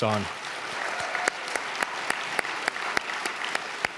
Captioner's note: audience clapping